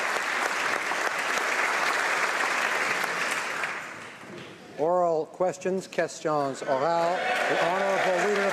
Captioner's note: applause